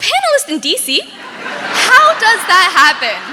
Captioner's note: audience laughing